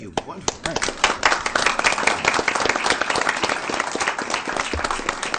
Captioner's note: applause